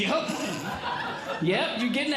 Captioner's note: audience Laughing